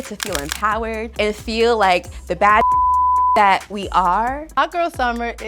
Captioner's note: beeps